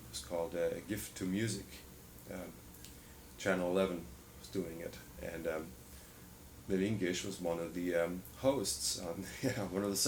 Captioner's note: laughs